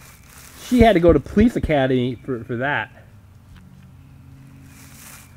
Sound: voiceover

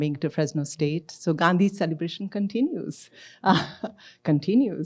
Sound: laughs

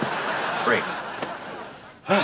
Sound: sighing

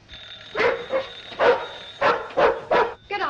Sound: dog barks

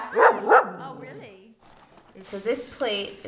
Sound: in Spanish; dog barks

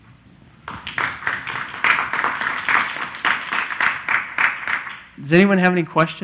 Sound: applause

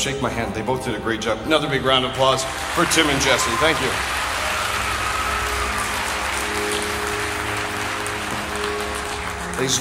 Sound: audience Applause

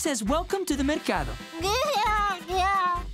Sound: babbling

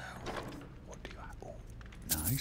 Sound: whisper

